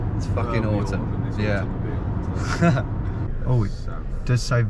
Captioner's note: laughs